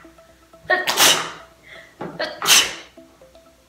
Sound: sneezing

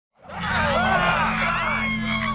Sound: screaming; laughing

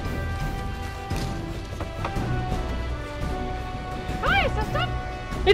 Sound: knocking

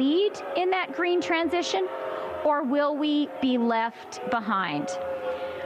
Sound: chanting "boo"

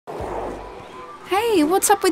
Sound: skateboard rolling

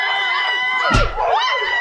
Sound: crowd clamoring; punch

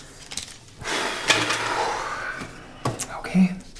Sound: exacerbated breath

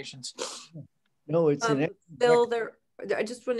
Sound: faintly speaking

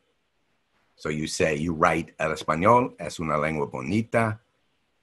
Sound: speaking Spanish

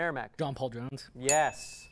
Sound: ding

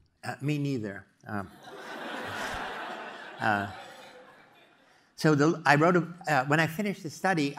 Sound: laugh

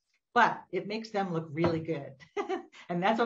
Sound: laughs

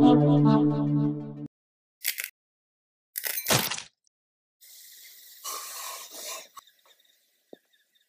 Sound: intro music; egg cracking and sizzling

